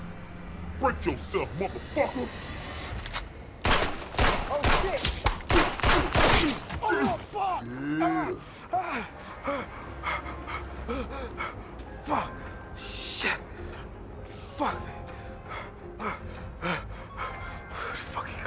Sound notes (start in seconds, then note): 3.6 gunshots blast; 6.8 groaning; 9.3 Silk gasping; 15.4 gasping